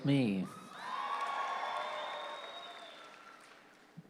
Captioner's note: audience cheers